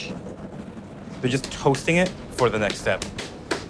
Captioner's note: tool thumping